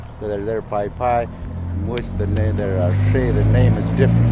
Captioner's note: speaking in foreign language